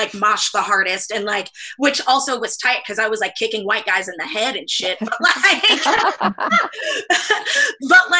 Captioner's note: laughter